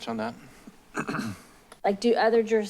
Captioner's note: clears throat